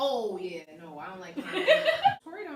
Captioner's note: laughs